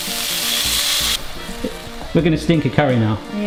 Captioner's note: pan sizzling